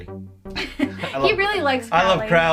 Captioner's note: laughs